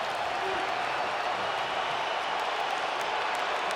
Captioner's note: crowd cheers